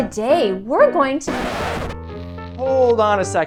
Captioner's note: record scratch